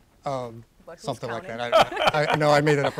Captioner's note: laughter